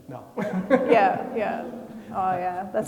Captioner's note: laughing